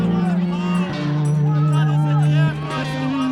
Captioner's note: crowd chanting